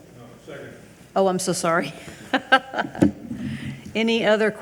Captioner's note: laughs